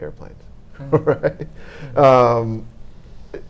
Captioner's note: laughing